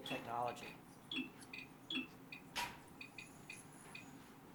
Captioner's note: pings